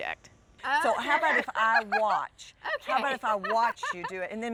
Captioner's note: laughs